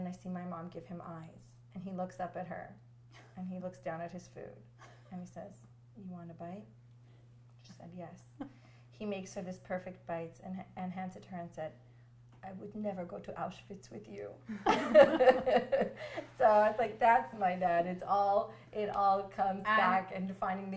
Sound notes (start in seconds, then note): 16.0 laughter